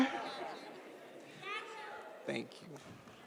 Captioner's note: audience laughs